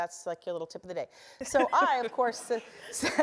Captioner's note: laugh